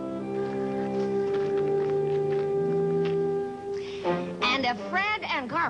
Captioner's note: gravel crunching